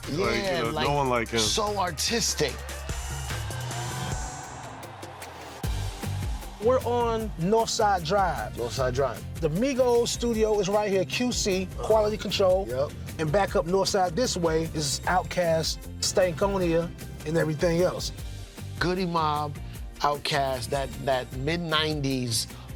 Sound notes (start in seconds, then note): 2.8 crowd cheering; 2.8 upbeat music